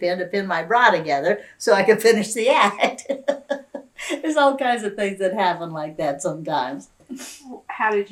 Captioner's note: laughs